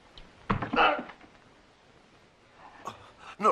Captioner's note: groans